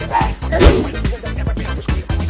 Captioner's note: oof!